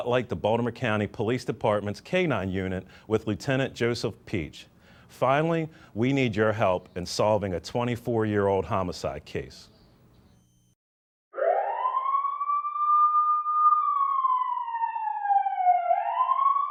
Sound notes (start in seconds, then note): 11.3 police siren blaring